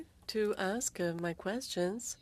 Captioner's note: speaking French